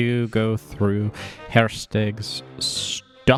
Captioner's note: laughs